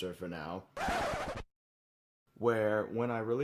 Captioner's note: record scratch